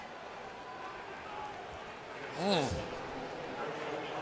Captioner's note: crowd cheering